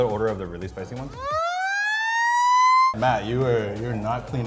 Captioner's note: siren echoing